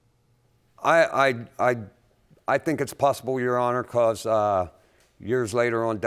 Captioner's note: stammering